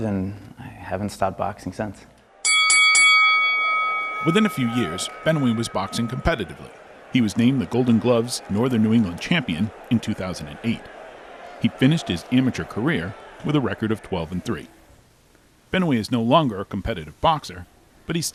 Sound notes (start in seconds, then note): 2.4 bell rings